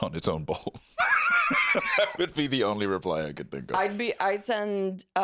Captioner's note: laughs